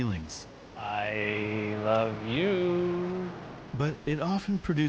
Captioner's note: sing-song